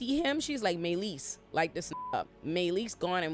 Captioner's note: beep